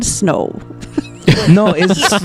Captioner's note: laughter